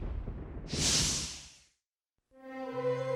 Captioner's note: screen whooshing; dramatic music